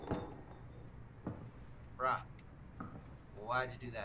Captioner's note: inner dino sqeaks